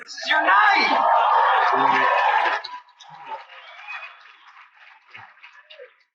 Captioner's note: cheering and Applause